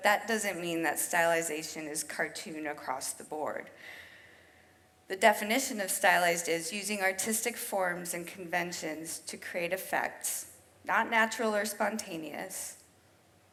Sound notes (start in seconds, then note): none